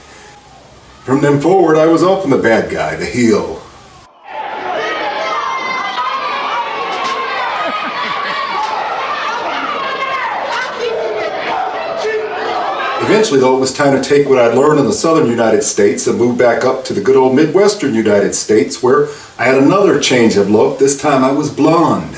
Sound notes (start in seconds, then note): 3.6 booing; 3.6 crowd noise